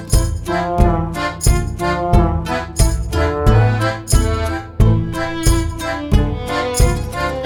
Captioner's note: fire